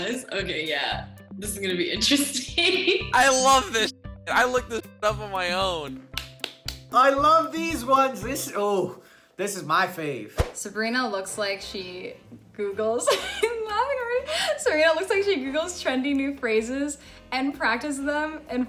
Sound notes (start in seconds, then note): 3.2 laughs; 6.1 claps; 12.8 laughs